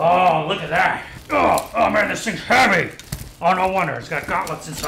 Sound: groans

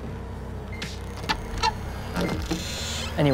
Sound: door creaks open

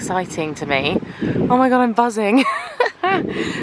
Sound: laughing

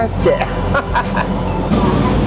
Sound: laughs

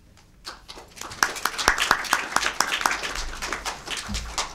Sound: audience clapping

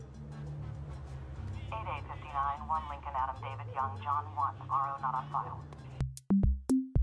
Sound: police Radio In The Background

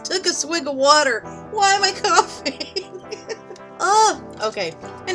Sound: laughing

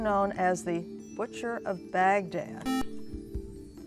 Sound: buzzer

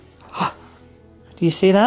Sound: gasps

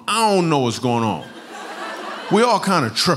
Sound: laughter

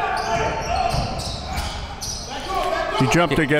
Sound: crowd and players yelling

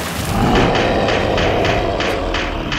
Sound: monster roars

